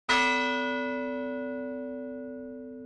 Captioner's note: bell rings